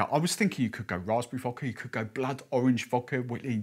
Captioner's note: none